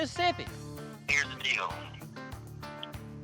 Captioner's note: on phone